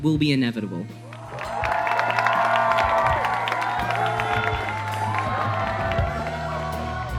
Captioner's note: crowd cheering